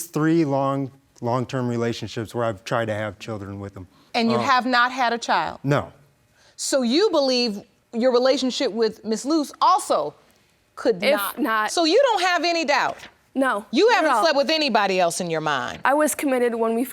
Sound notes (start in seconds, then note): none